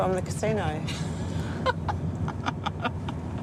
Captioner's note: laughs